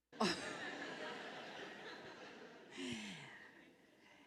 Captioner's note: laughter